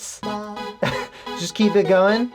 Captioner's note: small laugh